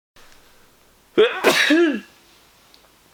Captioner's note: atchoum